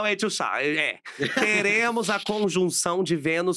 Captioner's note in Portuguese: risos